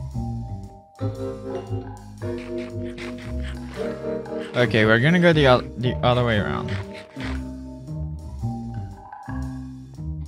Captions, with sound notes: (chewing) Okay, we're gonna go the the other way around.